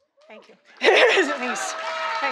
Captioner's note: audience clapping; audience cheering